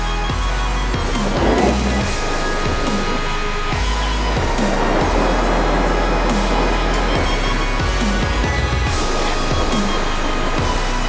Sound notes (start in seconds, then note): 0.8 wind whooshing; 1.2 alarm accelerates; 4.9 strong wind gusts